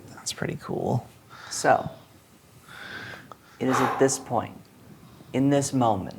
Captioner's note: exhales